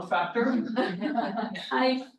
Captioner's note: laughter